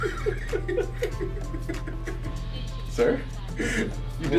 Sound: laugh

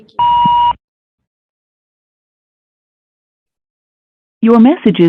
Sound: phone beeping

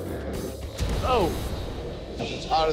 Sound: sizzles

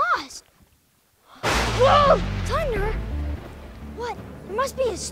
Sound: thunder cracks

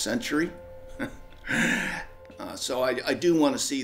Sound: laughs

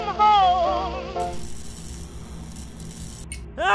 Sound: singing; electric humming; scream

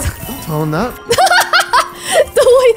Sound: laughs

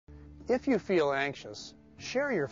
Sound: voiceover

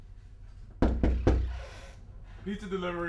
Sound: knocking on door

